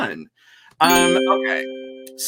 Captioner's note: computer dings